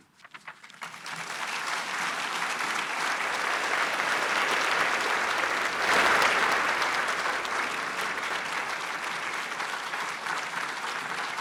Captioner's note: applause